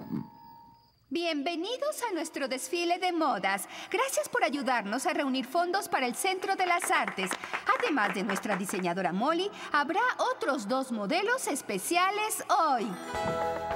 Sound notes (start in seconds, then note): 6.3 applause